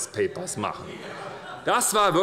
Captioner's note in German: Heiterkeit und Beifall bei der SPD